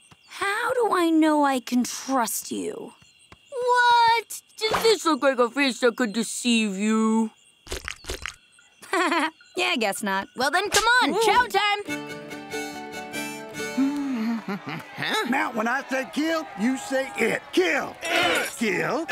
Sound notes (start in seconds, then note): 8.8 laughs; 13.5 humming